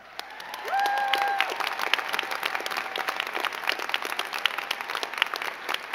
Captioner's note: crowd cheering and clapping